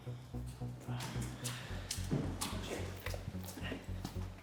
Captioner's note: footsteps